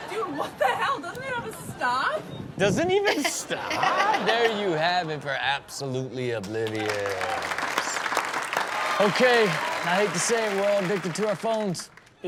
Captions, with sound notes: - Dude, what the hell? Doesn't it have a stop? - "Does it even stop?" (everyone laughs) There you have it for "Absolutely Oblivious." (audience cheers) - Okay, I hate to say it. We're all addicted to our phones.